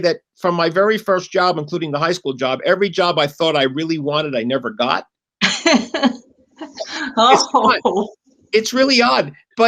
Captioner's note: laughter